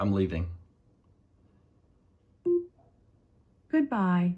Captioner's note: techno beeping